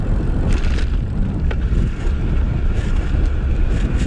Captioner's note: fender rattling; motor whirring